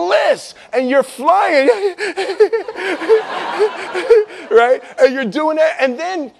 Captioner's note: nervous laughing